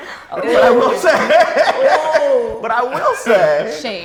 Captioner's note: laughter